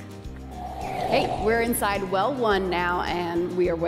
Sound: air whooshing

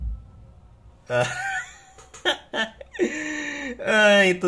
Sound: wheezes

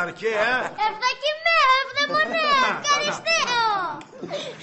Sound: in ancient greek

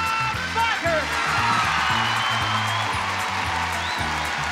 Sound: audience cheering and clapping; theme music

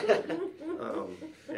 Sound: laughs

